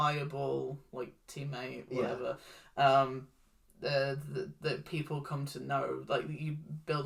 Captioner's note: stutters